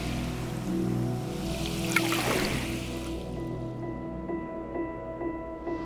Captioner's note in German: gentle, tense music; lapping water